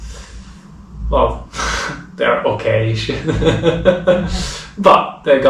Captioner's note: laughing